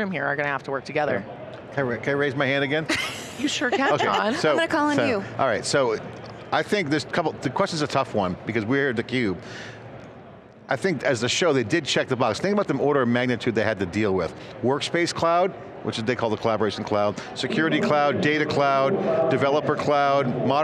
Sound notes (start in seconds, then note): 2.9 laughing